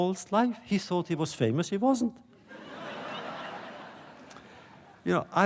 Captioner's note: laughter